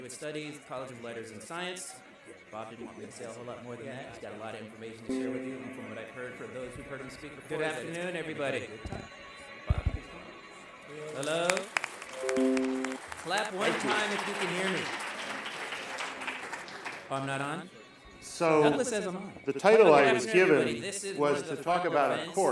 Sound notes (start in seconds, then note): 10.8 applause